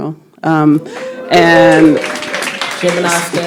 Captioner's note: crowd cheers